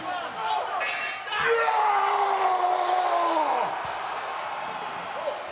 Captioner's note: Strowman yelling